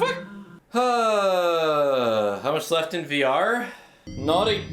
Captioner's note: sighs